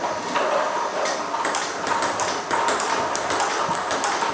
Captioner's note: ball ping pong hitting